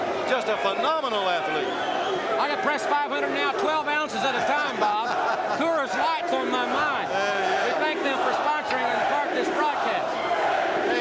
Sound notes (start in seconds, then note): 6.8 audience chanting